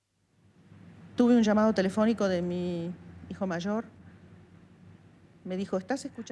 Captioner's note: woman speaking in foreign language